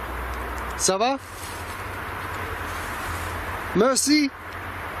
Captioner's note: speaking in foreign language